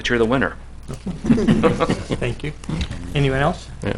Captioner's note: laughter